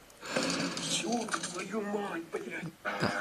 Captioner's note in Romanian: sforăit